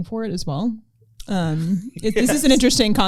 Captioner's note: laughter